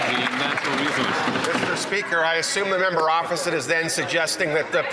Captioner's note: some Applause